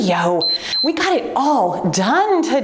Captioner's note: timer beeps